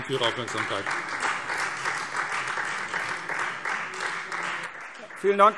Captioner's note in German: Beifall Freie Demokraten